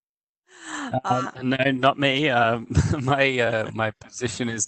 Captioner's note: chuckles